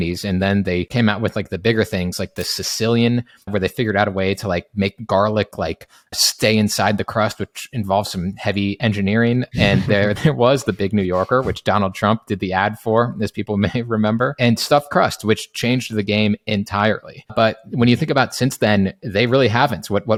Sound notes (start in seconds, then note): 2.4 screen clicking; 9.6 chuckling